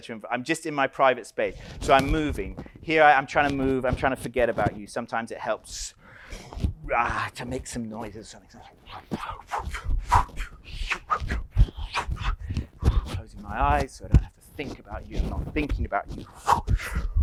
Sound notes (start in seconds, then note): 9.2 pants loudly; 16.3 continues to pant loudly